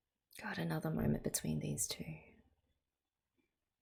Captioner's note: none